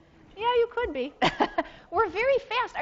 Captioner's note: laughs